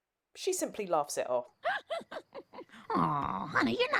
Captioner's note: laughing